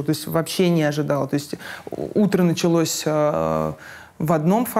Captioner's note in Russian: none